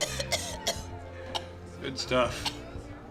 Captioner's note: coughing